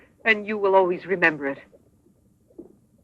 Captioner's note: none